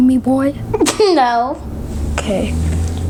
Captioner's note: laughs